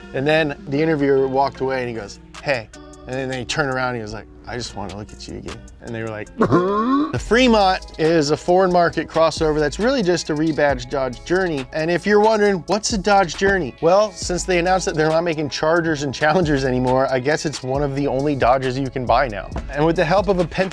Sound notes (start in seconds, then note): 6.4 forced laugh